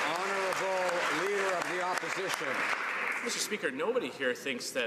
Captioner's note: some Applause